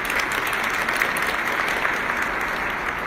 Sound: applause

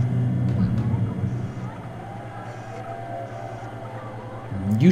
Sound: crowd cheers

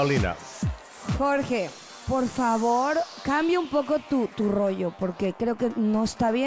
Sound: speaks in Spanish

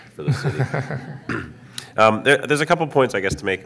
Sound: laughing

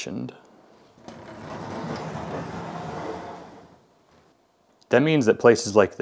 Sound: sliding door rattling

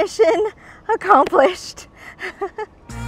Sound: laughs

